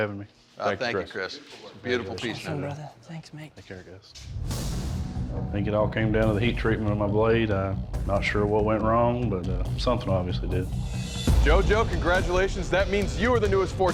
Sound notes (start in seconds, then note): none